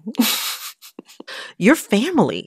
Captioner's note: laughter